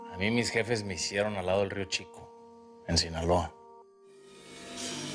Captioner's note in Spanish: none